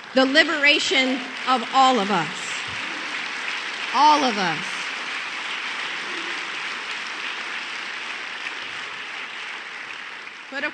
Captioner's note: applause